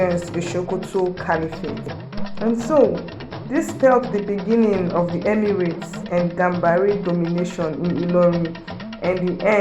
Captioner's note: hausa